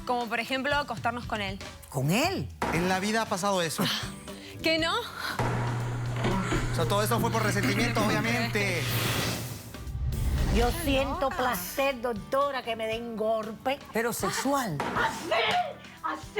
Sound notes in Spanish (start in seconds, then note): 5.4 gemidos